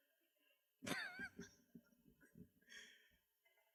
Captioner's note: laughs